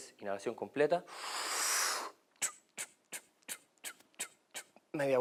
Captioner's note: deep breath